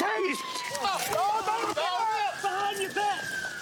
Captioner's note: yells